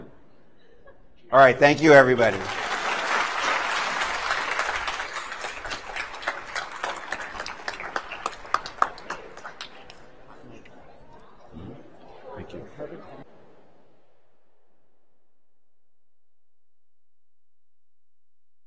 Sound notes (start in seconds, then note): 0.0 laughter; 4.7 applause